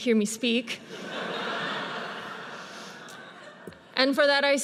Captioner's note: audience laughs